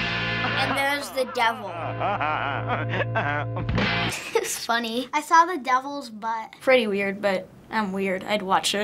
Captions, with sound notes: And there's the Devil. - (Devil cackling) - (chuckling) It's funny. - I saw the Devil's butt. - Pretty weird, but I'm weird. I'd watch it.